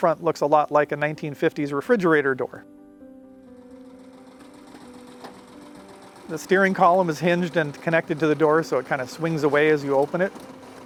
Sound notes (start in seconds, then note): 3.9 car engine rumbling; 3.9 light music continues